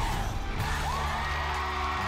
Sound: crowd

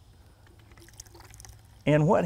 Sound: soap trickling

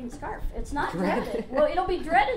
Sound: laughs

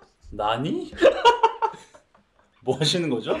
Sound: hehehehe

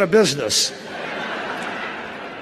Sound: laughter

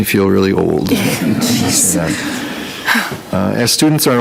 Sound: people laugh

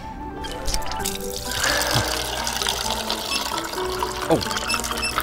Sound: orange juice pouring

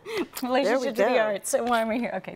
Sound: chuckles

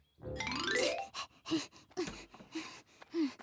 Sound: Hogi panting

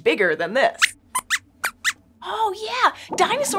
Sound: squeaks squeaks

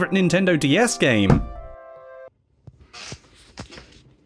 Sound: off-screen bang

